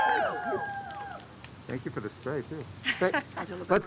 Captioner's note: cheers and applause